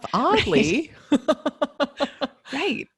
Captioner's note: laughing